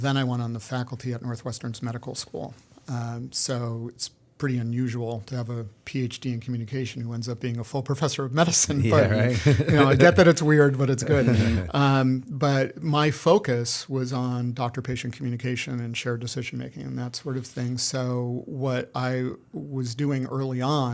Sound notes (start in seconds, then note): 9.0 laughter